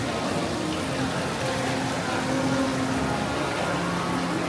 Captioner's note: water flowing